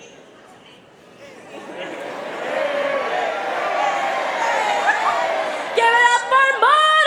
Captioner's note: crowd ayy-ing